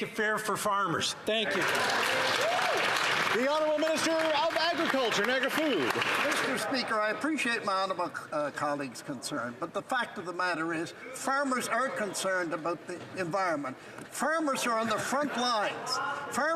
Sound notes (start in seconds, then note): 7.4 some Applause